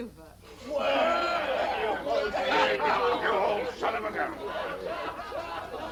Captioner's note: cheering